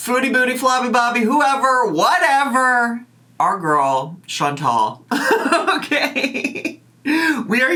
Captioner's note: laughs